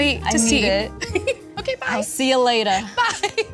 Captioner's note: giggles